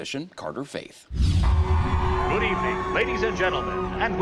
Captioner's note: crowd cheers